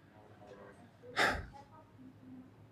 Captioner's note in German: seufzt